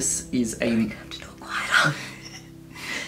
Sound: whispering

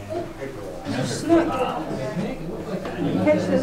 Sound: crowds talking

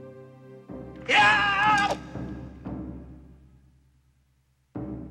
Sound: Ishikawa screams

